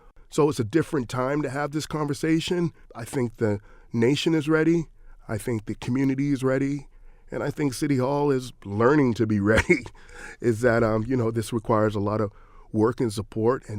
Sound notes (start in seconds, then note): 9.4 chuckles